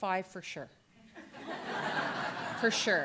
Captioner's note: audience laughter